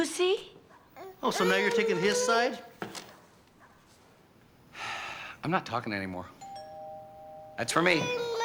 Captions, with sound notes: You see? Oh, so now you're taking his side? (sighing) I'm not talking anymore. (doorbell rings)